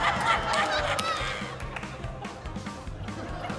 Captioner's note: laughter